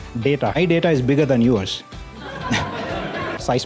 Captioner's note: audience laughter